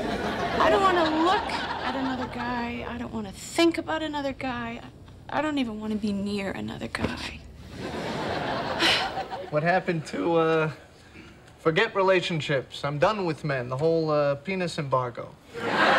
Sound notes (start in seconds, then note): 0.0 audience laughing; 7.7 audience laughing